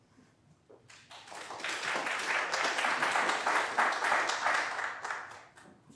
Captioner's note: applause